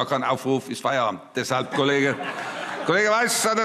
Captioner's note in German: Heiterkeit – Vereinzelter Beifall – Zuruf: So muss das sein!